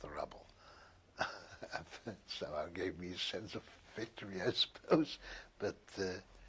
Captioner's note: laughs